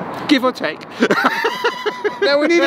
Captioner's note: laughing